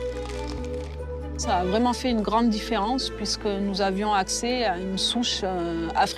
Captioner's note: speaks in foreign language